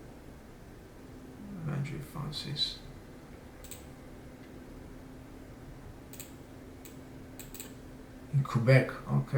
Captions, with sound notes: Landry Francois. (mouse clicks) In Quebec, okay.